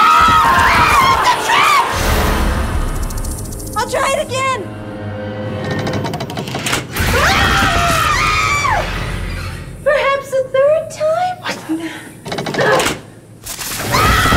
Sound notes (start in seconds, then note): 0.0 screaming; 3.3 snake hissing; 7.0 screaming